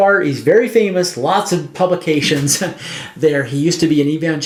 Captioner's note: chuckles